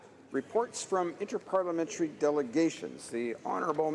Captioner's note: speaking French